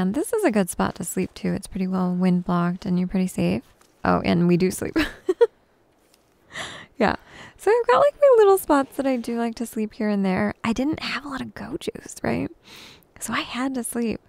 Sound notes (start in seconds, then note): 5.0 giggles